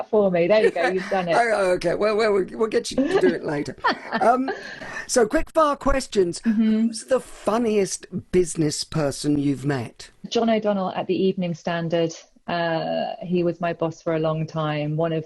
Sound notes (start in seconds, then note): 0.5 laughs; 4.0 laughs loudly